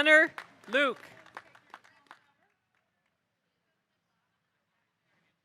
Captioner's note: audience applauding